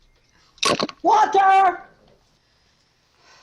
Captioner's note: headphones clatter; sigh